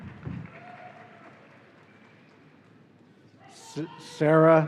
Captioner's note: audience cheering